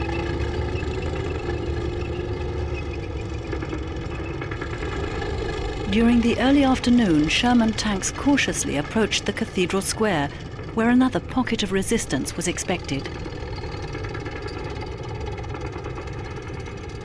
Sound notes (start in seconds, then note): 13.7 tank rumbling